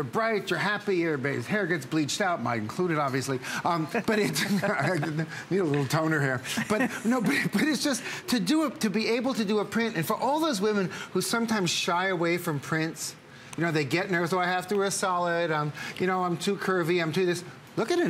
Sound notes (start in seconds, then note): 6.5 laughter